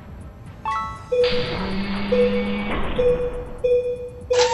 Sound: beeping alarm

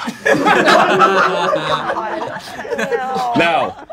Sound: laughing

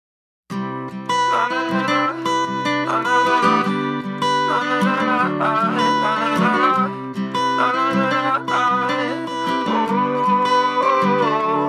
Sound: vocalizing

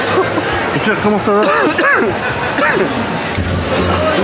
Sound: cough

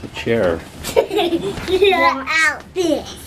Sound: giggling

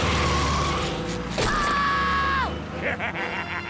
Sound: screams; laughs

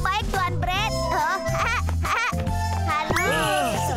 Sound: laughing

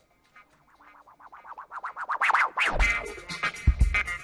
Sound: record scratches

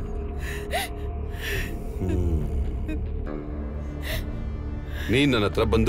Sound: laugh; crying

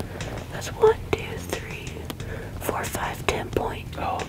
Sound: whispering

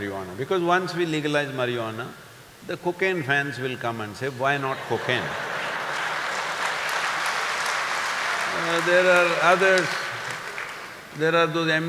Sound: laughter/Applause

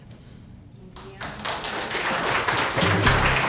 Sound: applause

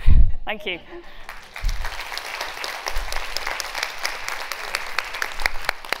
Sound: audience clapping

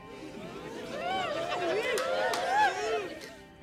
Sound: audience cheering

